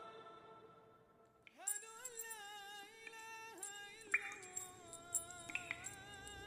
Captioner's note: chains rattling and water dripping